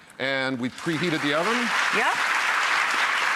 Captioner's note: applause